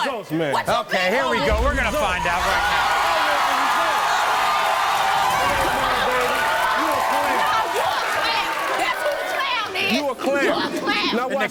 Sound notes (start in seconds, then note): 1.2 audience cheering